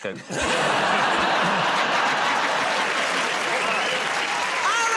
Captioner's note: laughter